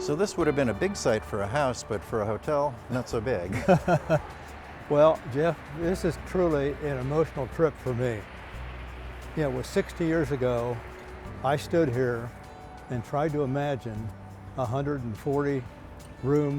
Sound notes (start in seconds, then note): 3.4 laughter